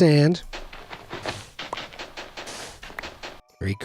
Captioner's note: game clanks, crunches